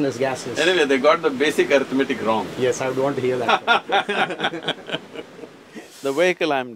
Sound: both laugh

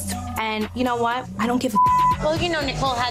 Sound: beep

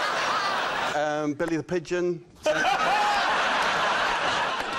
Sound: laughter

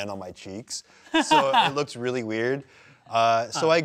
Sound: laughs

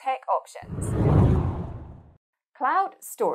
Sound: screen whooshing

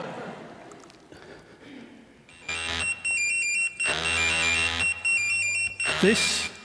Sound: laughter; device buzzes and rings

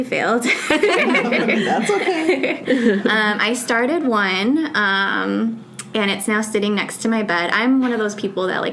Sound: all: laughs

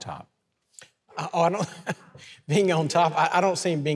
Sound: chuckling

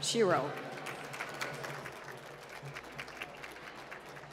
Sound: applause

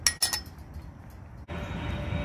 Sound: gate clangs shut

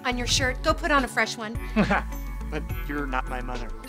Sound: laughing

